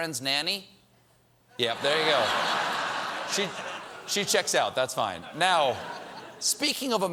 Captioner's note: laughter